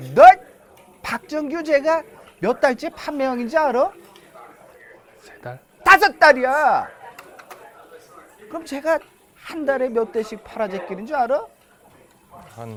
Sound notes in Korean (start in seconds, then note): none